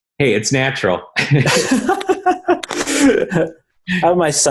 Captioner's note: laughing